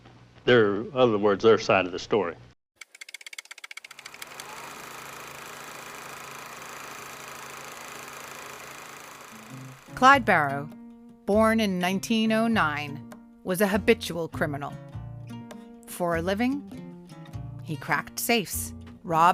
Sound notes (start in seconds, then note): 2.8 film projector whirring; 9.0 soft country music